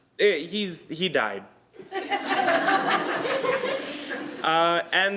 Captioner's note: laughter